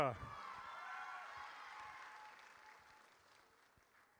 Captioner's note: audience cheers